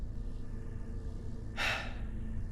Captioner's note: heavy sigh